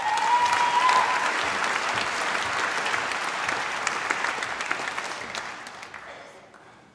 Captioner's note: applause